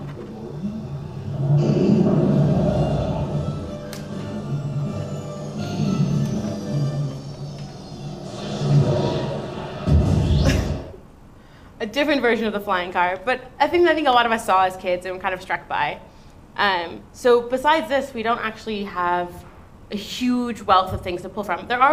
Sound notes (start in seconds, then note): 1.2 boomy blasty noises